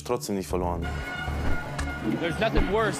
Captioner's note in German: Stadiongeräusche; englisch